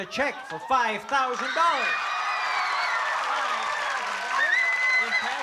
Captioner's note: applause and cheering